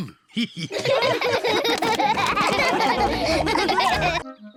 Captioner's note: all laughing